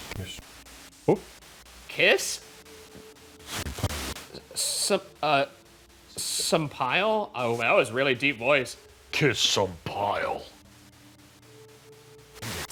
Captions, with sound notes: - Commissioner. - Oh. - Kiss? (audio static) Some, uh, some pile? Oh, that was really deep voice. - Kiss some pile. (white noise)